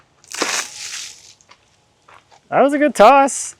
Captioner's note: water splashing